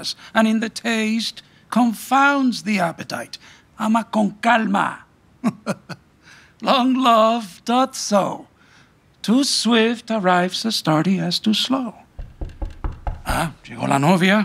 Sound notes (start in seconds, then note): 5.4 chuckling; 12.1 knocking